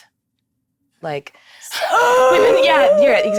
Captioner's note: choking